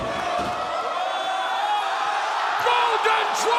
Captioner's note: crowd exclaiming